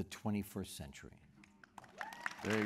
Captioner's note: applause